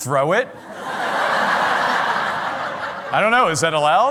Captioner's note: laughter